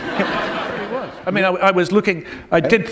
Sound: laughter

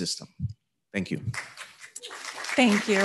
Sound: audience applauding

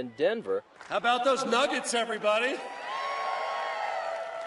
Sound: cheers applause

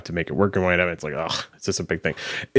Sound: groaning

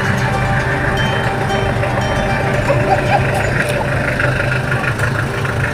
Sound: clap

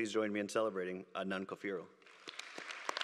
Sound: applause

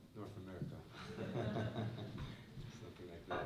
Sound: laughter

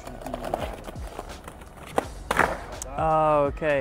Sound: skateboard clatters

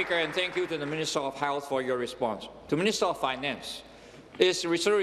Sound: applause

